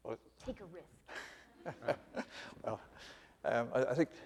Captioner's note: laughing